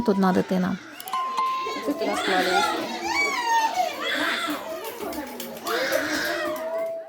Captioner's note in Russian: крики и плач детей